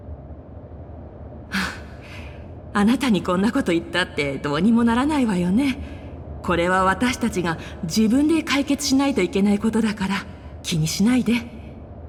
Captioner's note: sigh